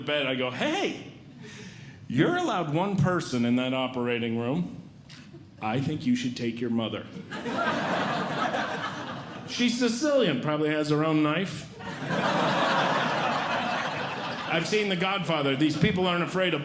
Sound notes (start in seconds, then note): 7.2 audience Laughing; 11.7 audience Laughing